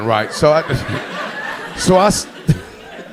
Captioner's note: audience laughing